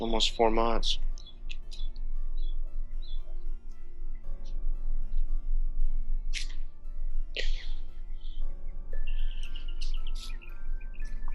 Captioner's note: birds chirping